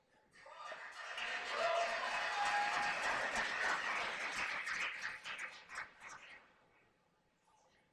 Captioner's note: cheers and applause